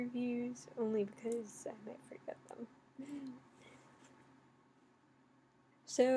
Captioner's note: laughs